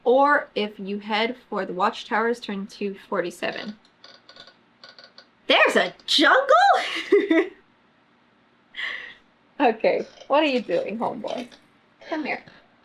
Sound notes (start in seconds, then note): 6.8 laughs